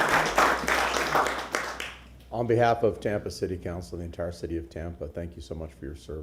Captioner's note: applause